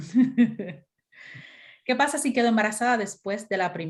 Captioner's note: laughter